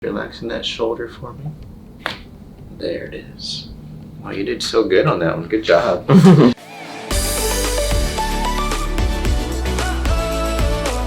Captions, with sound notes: - Relaxing that shoulder for me. (crack) There it is. Wow you did so good on that one. Good job. (woman chuckles) (upbeat music)